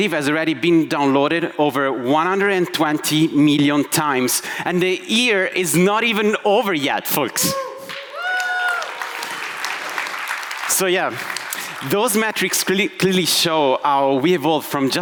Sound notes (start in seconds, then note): 7.8 audience applauding